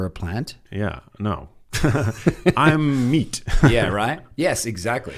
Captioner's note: laughs